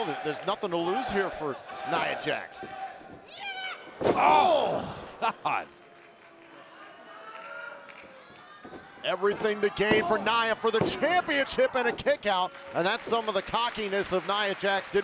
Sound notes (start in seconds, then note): 2.6 Nia shouts